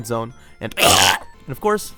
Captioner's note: regurgitating